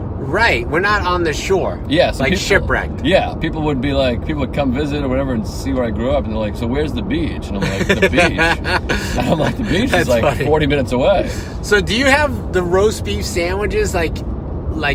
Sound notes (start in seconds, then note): 7.6 laughing